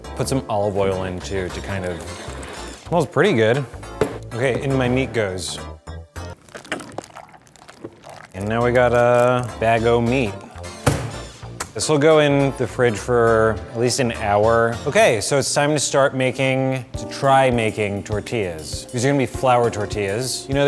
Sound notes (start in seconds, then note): 6.3 squishing